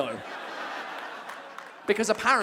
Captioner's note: audience members clapping